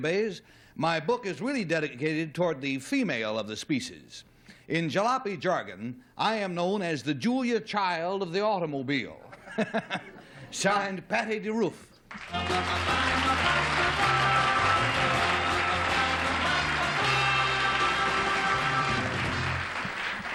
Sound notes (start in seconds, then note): 9.2 laughs; 12.2 theme music